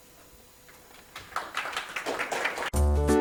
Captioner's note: audience applauds; light upbeat music